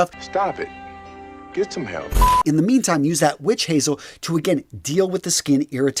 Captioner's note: sound effect